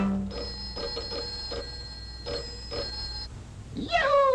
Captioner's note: loud ding; loud ringing